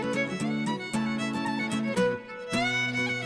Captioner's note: none